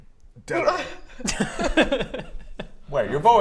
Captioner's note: suspicious giggles